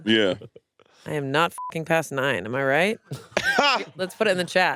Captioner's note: beep; laughs